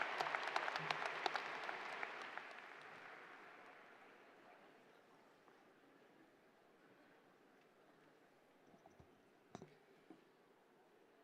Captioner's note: cheers and applause